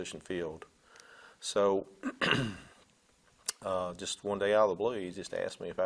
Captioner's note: clearing throat